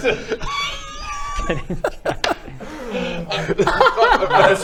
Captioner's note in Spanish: ataque serio de risitas